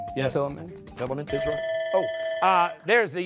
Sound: bell ringing

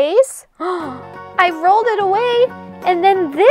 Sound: gasp

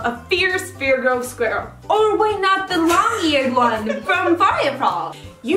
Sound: laughs

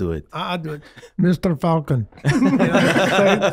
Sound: all laughing

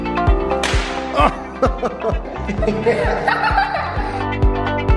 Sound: everyone laughing

